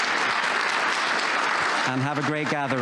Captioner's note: applause